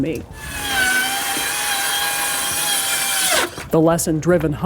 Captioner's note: saw whirring